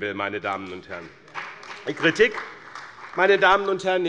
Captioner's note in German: Beifall bei dem BÜNDNIS 90/DIE GRÜNEN und der CDU